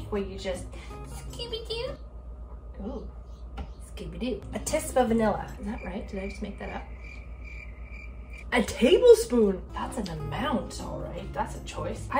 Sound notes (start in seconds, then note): 7.4 crickets chirping